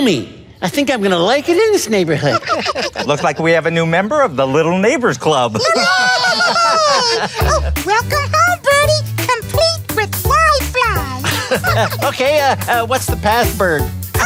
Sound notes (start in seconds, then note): 2.0 laughter; 5.6 cheering, laughter; 11.2 laughter